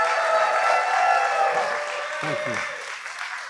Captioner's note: applause